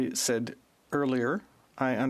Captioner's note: speaking FRENCH